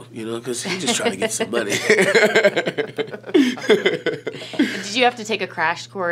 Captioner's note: laughs